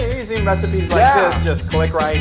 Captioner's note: laugh